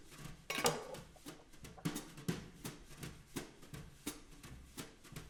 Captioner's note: knife clatters